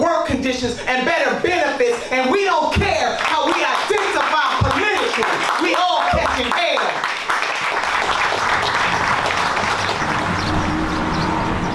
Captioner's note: applause